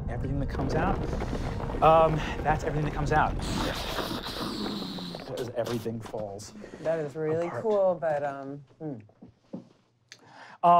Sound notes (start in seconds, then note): 2.2 crumbling; 3.9 wooshing